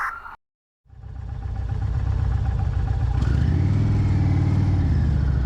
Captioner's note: engine rumbling